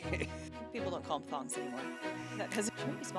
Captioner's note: laugh